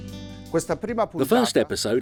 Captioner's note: speaking foreign language